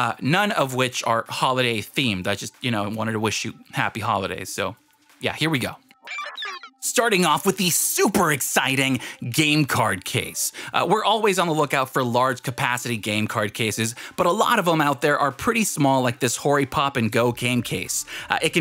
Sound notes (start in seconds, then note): 5.9 digital sounds